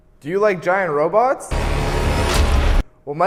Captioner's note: thunderous stomping